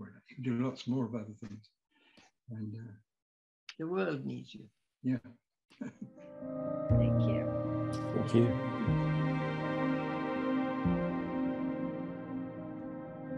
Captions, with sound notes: You do lots more of other things and-- - The world needs you. - Yeah. (chuckles) - Thank you. - Thank you. (gentle music)